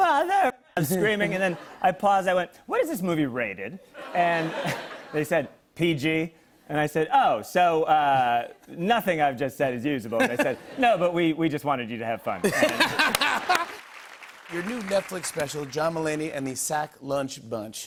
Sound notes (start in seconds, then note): 12.4 laughter